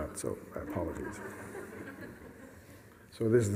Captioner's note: laughter